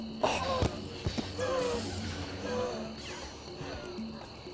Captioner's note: wheezing